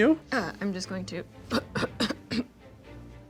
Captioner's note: clears throat